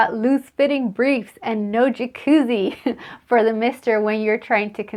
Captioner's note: laughs